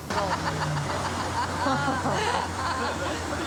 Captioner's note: laughing